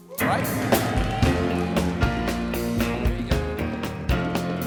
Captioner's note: band playing; cheers and applause